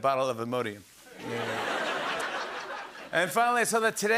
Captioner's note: laughter